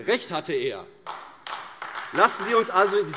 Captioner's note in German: Beifall AfD